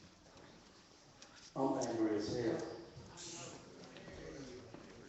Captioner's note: none